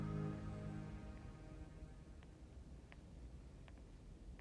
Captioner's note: footsteps tapping